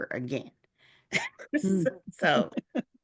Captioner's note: chuckling